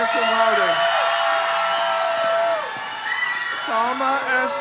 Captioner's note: crowd cheers